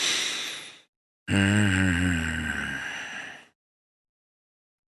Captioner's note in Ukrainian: стогін